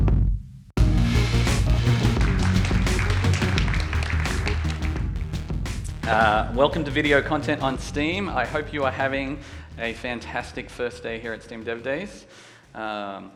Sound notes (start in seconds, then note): 1.0 audience applauding